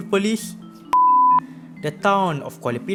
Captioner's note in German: piep